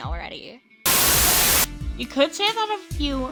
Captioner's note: Static